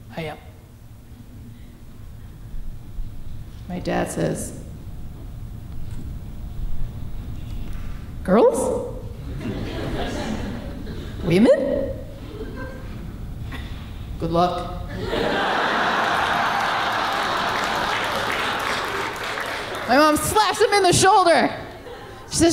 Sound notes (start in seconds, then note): 9.2 audience laughing; 14.9 audience laughing